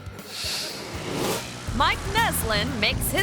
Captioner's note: screen whooshes